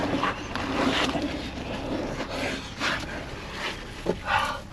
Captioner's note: heavy breathing